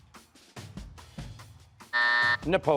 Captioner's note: buzzer